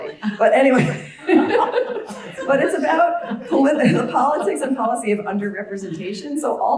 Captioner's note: laugh